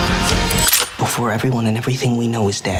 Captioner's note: gun corking